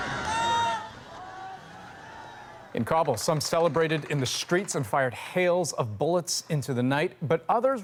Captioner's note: cheers and Applause